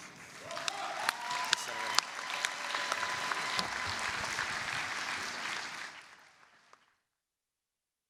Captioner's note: applause, cheering